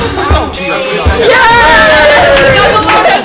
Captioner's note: all cheer